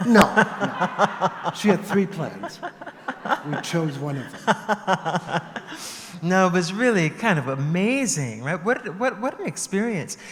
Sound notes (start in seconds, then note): 4.3 laughter